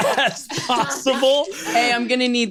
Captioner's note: laughs